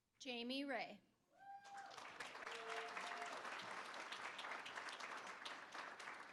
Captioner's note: cheering; applause